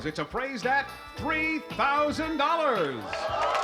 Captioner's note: applause, cheering